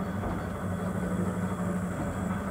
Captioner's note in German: Leises Surren